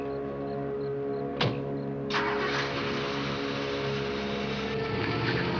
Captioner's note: car door closes and engine starts; car drives away